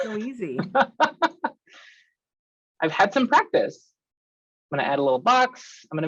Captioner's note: laughs